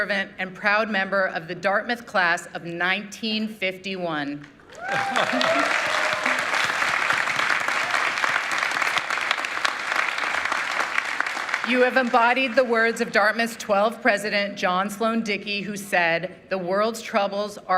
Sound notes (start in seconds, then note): 12.5 applause